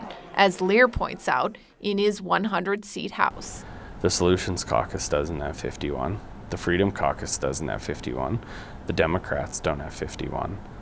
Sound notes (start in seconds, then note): none